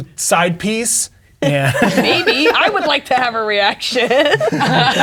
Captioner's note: players laughing